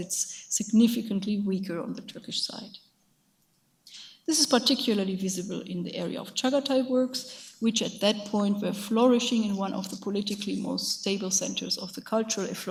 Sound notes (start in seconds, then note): 6.4 speaks in foreign language